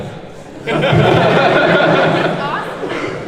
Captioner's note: laughs